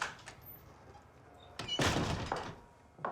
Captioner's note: door opens, closes